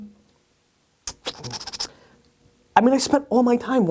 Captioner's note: Gary makes squeaking noise